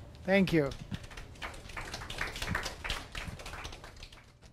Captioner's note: audience applause